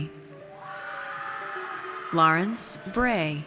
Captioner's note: audience cheers